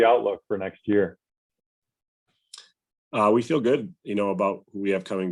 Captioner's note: A pause